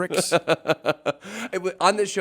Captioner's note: laughs